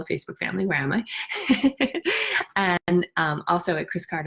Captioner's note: laughs